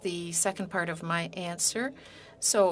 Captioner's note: speaking in French